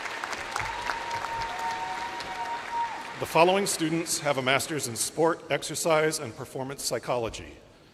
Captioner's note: names being called